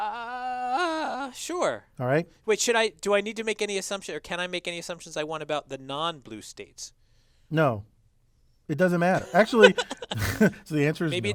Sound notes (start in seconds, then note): 9.2 laugh